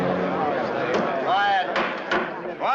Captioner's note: people chattering; gavel bangs